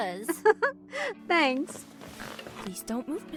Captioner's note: giggles